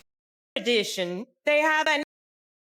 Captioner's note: french dialogue continues